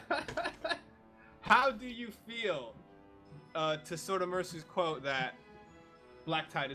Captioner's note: everyone laughs